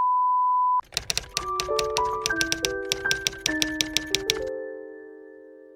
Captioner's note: typewriter tapping